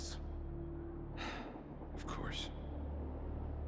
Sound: sigh

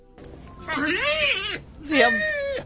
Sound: Joey vocalising

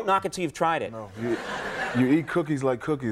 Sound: audience laughing

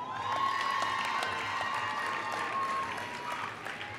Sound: applause

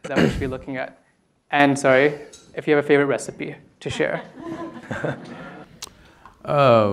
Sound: laughter

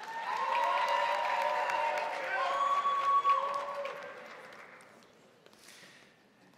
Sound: crowd cheering; crowd applauding

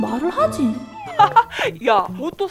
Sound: haha!

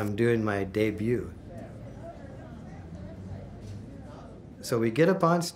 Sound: people talking

